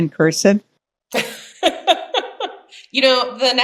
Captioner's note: laughing